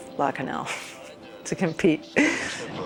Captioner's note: laughs